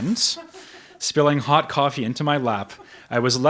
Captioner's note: audience member laughs